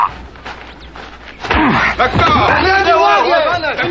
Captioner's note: men shouting in native language